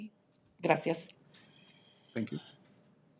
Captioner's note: speaking in Spanish